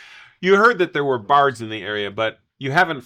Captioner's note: none